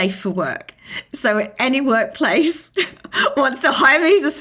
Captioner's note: laughing